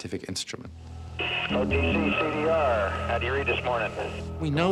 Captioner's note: radio chatter